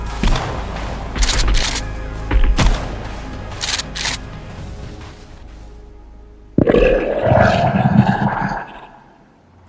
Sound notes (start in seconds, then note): 0.2 gunshots; 2.5 gunshots; 6.7 growling; 9.5 dramatic music